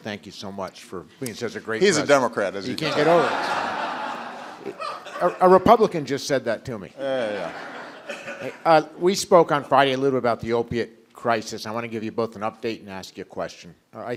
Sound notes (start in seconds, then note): 2.8 laughter; 7.8 laughter